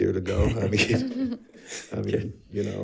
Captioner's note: board Members laughing